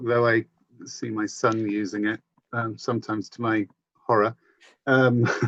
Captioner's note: laughs